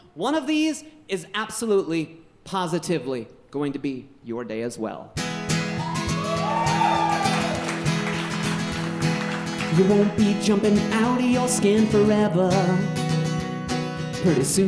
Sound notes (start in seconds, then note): 5.4 guitar strumming; 5.7 audience cheering